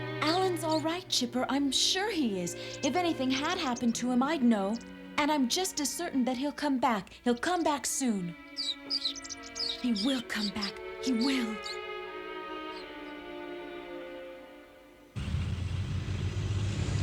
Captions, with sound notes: Alan's all right, Chipper. I'm sure he is. If anything had happened to him, I'd know. And I'm just as certain that he'll come back. He'll come back soon. (SQUEAKING) He will come back... He will...